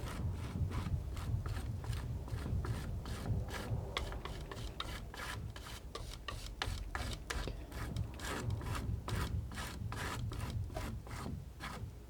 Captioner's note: scratching